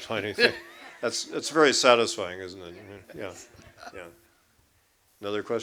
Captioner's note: laughter